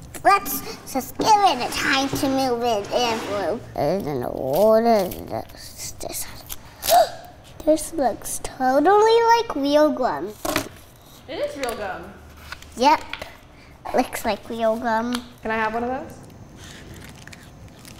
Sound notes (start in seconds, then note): 6.7 gasping